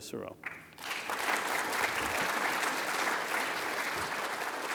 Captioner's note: audience clapping